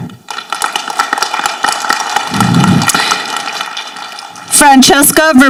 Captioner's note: people applauding